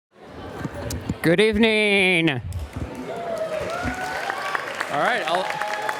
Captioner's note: audience applauding